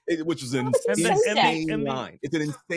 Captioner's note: both laughing